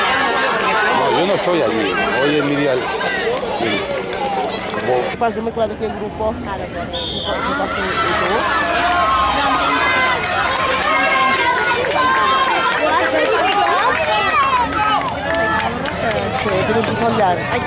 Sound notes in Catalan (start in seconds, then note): 6.9 La gent anima; 6.9 xiulet